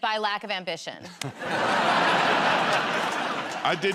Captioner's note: laughter